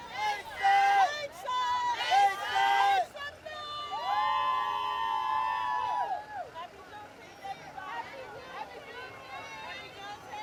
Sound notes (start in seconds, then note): 1.6 group chanting; 4.0 everybody cheering